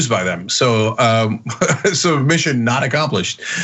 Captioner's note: laugh